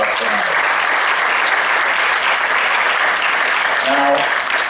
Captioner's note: applause